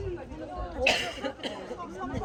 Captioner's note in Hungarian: Turista köhögés